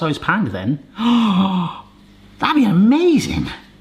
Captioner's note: gasps